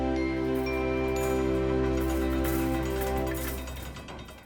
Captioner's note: light clanging